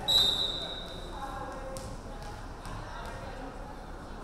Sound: referee whistling

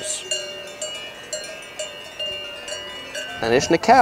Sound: cow bells ringing

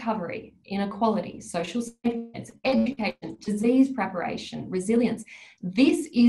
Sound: audio distorts

